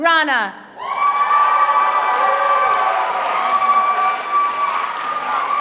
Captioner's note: applause